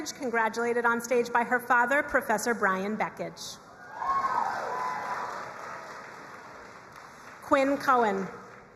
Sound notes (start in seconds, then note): 3.8 crowd cheering and applauding